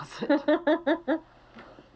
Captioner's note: laughing